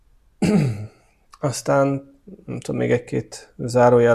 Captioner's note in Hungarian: köhögés